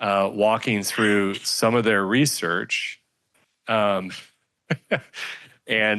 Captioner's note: laughs